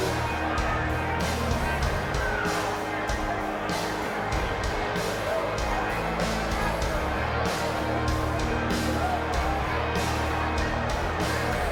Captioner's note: crowd chatter